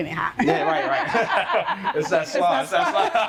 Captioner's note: laughing